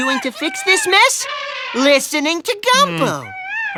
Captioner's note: elephant trumpeting